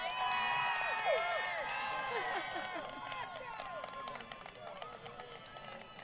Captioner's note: crowd Cheering & Applause